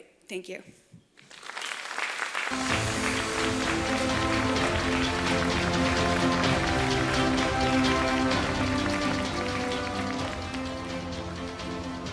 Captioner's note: applause, Music